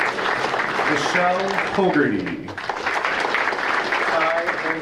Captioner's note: audience applauding